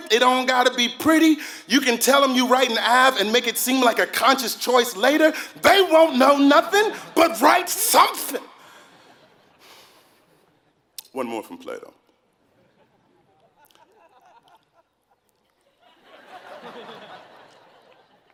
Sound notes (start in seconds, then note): 12.6 laugh